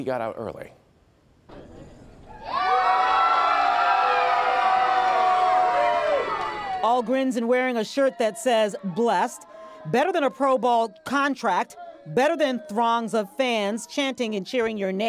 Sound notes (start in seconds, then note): 7.2 cheering and applause